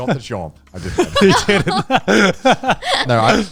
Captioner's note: everyone laughing